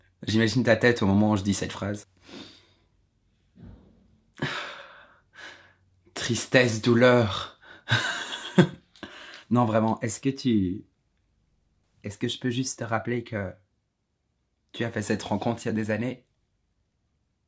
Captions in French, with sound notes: j'imagine ta tête au moment où je dis cette phrase. Tristesse, douleur *rires* Non vraiment est ce que tu... Est-ce que je peux juste te rappeler que... Tu as fait cette rencontre il y a des années